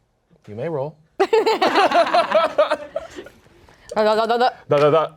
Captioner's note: everyone laughs